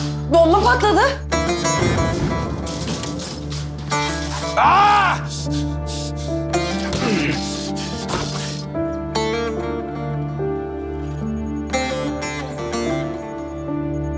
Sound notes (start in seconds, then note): 1.3 emotional music; 1.7 exploding sound; 4.4 shouts